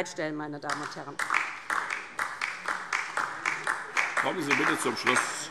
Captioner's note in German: Beifall DIE LINKE